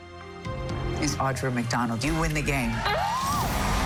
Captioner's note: screams